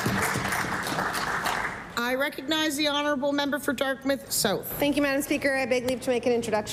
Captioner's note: applause